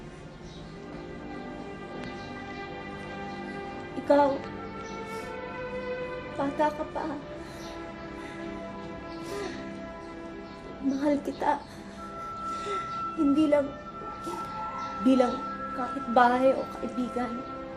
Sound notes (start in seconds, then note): 4.8 sniffles; 9.1 sobs